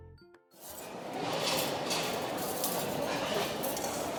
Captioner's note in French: bruits de foule et de vaisselle